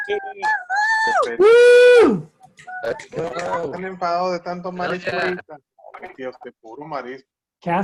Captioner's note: cheering